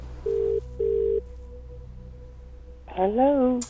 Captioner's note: phone ringing